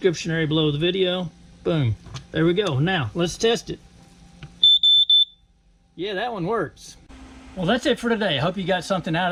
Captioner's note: beep, beep, beep